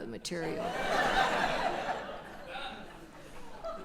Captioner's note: audience laughter